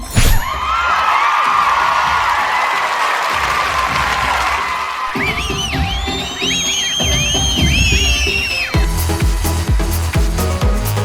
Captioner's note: applause